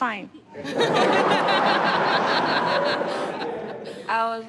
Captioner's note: laughter